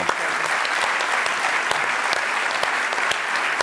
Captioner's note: applause